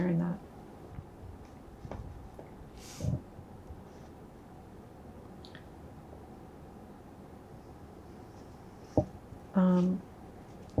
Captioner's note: pauses 11 seconds